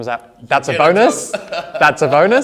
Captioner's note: laughing